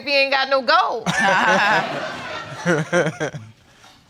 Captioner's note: all laughing